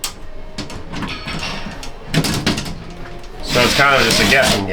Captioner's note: metal Clanking